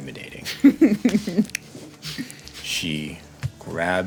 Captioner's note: laughing